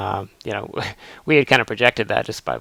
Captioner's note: laughs